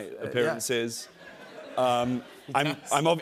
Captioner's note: laughter